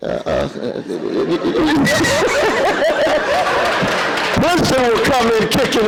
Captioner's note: laughter